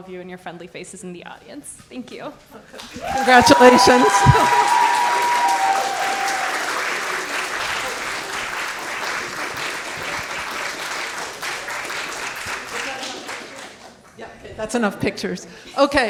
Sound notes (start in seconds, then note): 5.3 audience cheering; 7.8 audience clapping